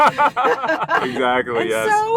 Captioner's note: laughing